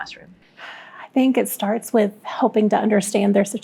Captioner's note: sighs